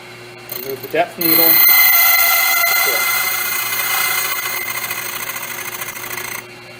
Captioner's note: metallic grinding noise